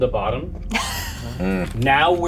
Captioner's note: Evelyn chuckles